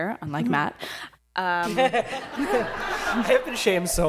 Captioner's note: laughter